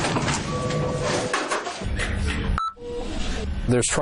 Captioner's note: doors banging; machines beeping